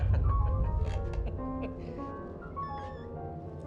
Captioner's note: chuckling